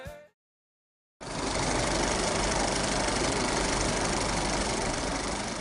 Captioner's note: film rattling